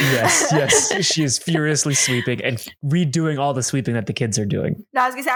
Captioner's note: laughter